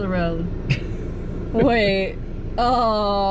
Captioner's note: laughter